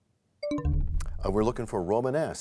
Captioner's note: bell chimes, time expires